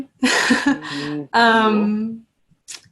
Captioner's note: laughs